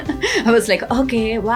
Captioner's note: laughs